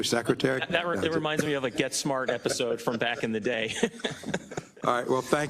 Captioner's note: laugh